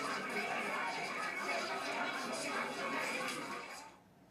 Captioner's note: Tepuk tangan